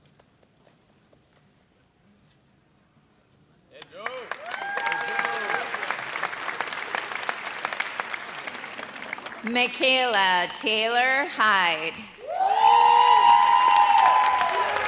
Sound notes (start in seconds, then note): 3.8 audience applauds; 12.1 audience cheers